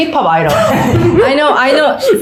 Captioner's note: immediate laughter